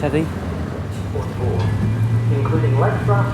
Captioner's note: tannoy